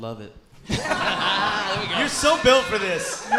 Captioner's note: audience laughing